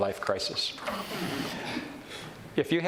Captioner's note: audience chuckles